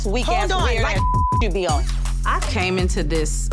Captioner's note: beep